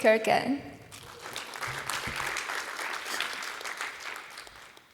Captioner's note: applause